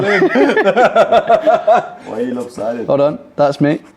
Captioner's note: all laughing